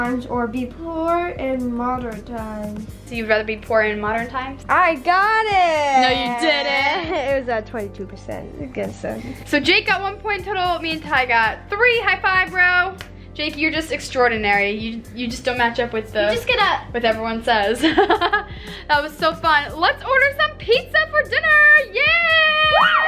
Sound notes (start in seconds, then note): 17.8 laughs; 21.8 excited shouts